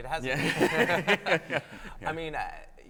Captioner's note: laughs; panelists laughing